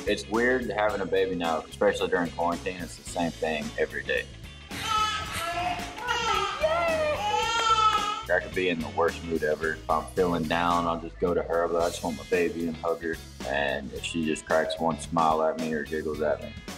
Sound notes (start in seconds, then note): 4.7 baby laughing